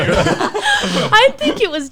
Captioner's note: laughs